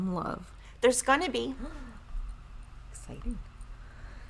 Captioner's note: woman gasps